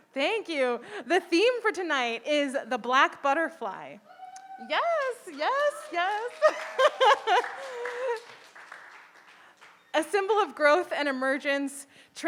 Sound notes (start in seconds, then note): 6.4 audience applauding